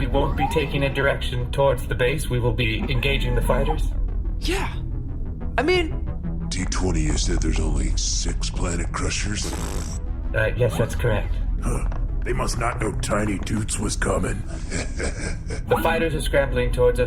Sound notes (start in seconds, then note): 8.9 Turk blows raspberries disdainfully; 14.4 laughter